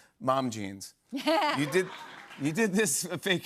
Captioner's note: laughter